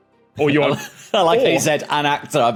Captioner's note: cracks up